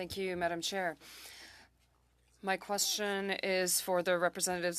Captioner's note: speaking French